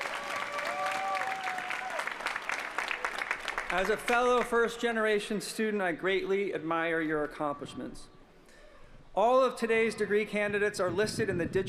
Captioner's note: applause